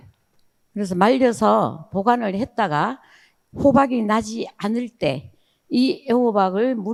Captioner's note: speaking in foreign language